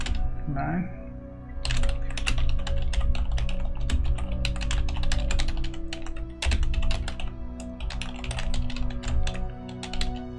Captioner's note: intense typing